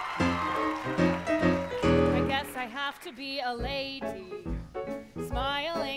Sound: applause

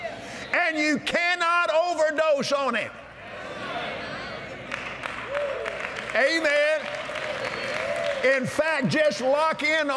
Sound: cheers & Applause

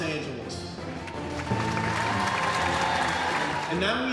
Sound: audience applauding

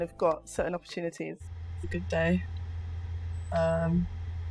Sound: DJ Ayizan mumbling to herself in her car

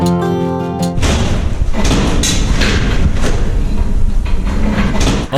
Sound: rumble of wheels on stairs

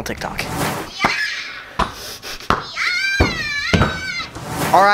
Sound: kid screaming

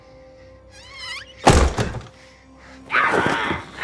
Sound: hinge squeaks, door slams; growls

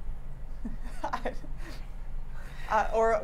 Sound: laughs

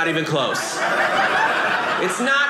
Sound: audience laughing

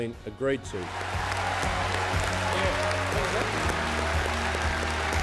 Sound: applauding and cheering

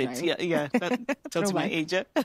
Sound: laughter

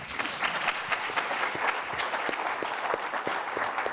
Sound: applause

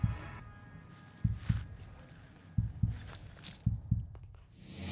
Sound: slow heartbeats

